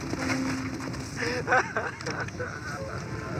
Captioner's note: horse galloping and stranger crying; stranger crying